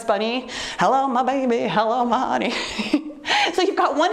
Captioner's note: chuckles